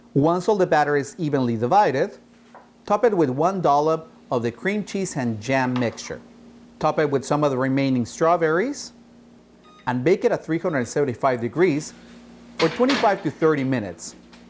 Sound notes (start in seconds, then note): 9.6 oven beeping